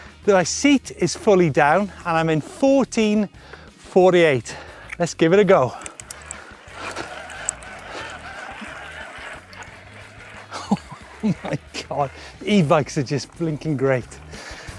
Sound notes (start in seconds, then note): 6.2 bike tires rubbing; 14.5 upbeat music